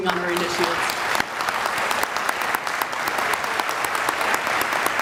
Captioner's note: audience applauding